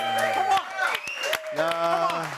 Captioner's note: all cheering and applauding